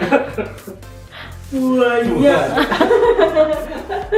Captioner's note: laugh; laugh